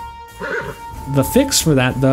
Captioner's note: horse sounds